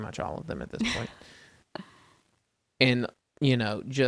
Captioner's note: laughs